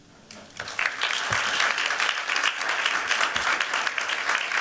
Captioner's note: applause